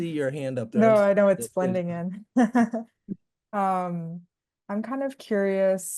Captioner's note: laughing